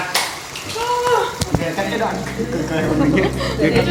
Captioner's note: laughs